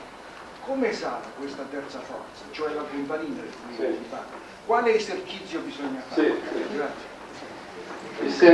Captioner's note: italian